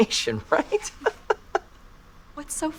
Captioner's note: Will Laughing